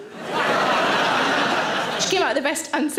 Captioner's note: audience laughing